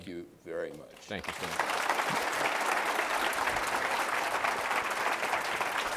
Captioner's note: applause